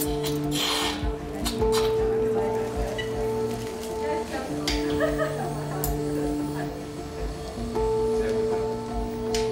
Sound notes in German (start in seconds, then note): 1.8 Ruhige Musik, leise Stimmen; 4.4 Stimmengewirr, Lachen